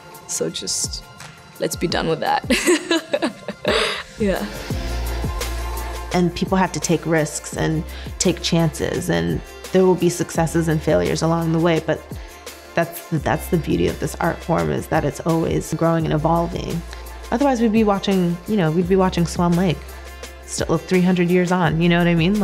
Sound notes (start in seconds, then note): 2.5 laughs